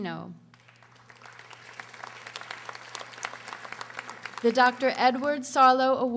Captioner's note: audience applauding